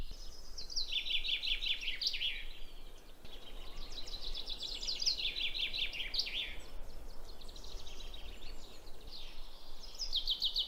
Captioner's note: bird